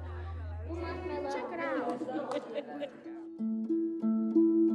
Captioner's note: laughing together